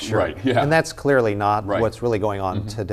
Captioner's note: laughing